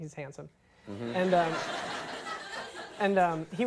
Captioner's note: audience laughs